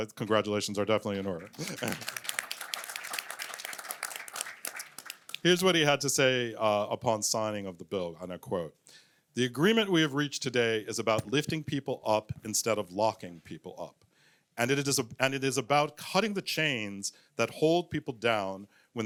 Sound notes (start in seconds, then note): 1.2 applause